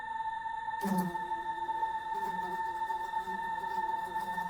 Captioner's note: flies buzzing